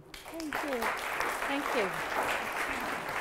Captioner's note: applause